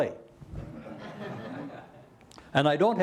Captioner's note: laughter